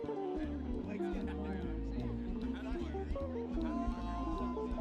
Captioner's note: people chattering